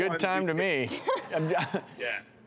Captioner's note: laughs